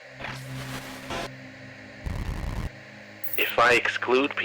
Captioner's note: static crackling